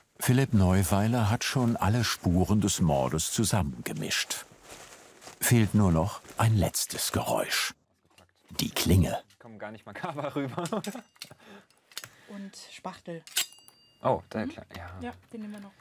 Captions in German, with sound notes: Philipp Neuweiler hat schon alle Spuren des Mordes zusammengemischt. Fehlt nur noch ein letztes Geräusch: die Klinge. (lacht:) Kommt gar nicht makaber rüber. Und Spachtel. Oh, der Klang. - Den nehmen wir noch.